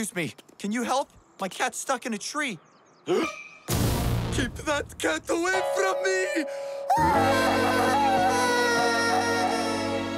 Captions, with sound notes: Excuse me, can you help? My cat's stuck in a tree. [gasps] Keep that cat away from me! Ahh!